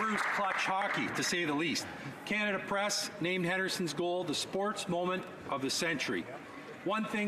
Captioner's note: applause